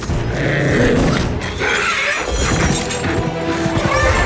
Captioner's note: beast growling; dramatic music